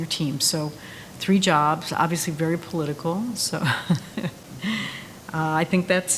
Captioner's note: laughs gently